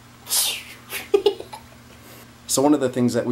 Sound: vocalizes flying effect; laughing

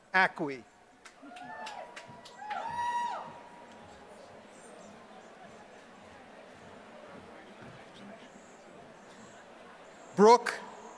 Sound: applause

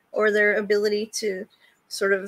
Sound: none

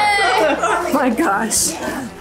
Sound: group laughs; laughs

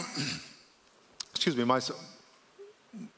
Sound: coughs

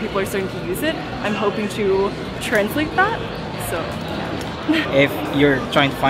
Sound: laughs

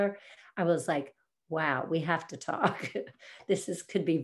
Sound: chuckles

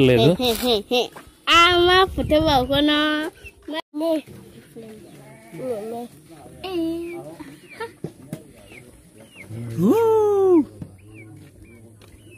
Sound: speaking in Foreign language

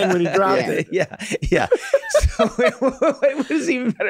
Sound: laughing

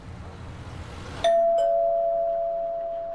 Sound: bell Rings

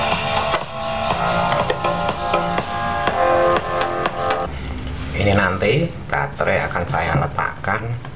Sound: clap

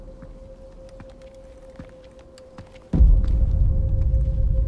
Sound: footsteps

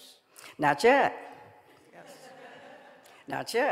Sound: audience laughing

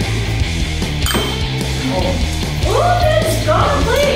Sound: score dings

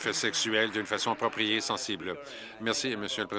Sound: applause

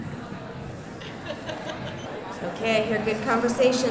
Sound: background conversations

